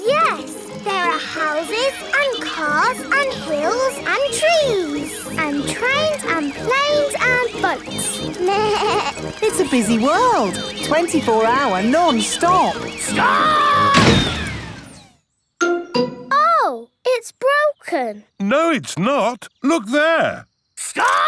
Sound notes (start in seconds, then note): 8.4 bleats; 13.8 thuds